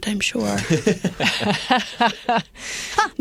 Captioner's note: laughter